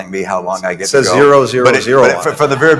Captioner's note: laughter